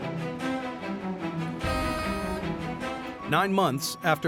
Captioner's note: horn honks